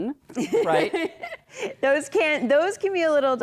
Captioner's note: laughter